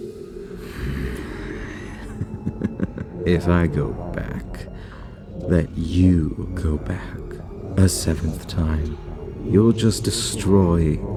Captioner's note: chuckle